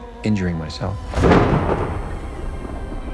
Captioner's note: thunder clap